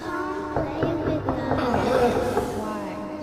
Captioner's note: knocking on the door